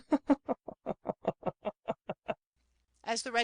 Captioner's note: laughter